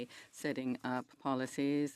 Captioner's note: speaking French